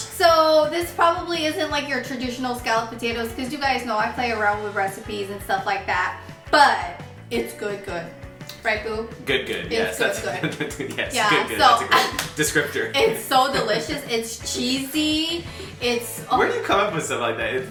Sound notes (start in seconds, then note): 10.0 giggling; 10.0 laughing